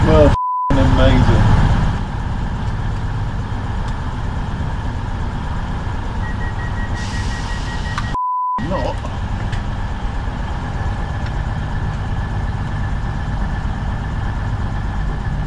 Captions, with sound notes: Well, ******* amazing. [train door beeping] ******* not.